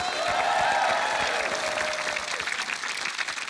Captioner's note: cheering, applause